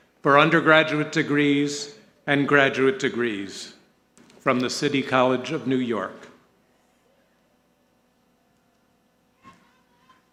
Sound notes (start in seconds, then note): none